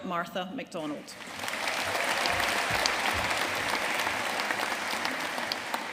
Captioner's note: audience applauding